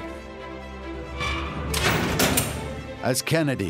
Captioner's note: door shut closed